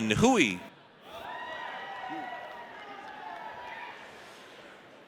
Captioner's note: audience cheers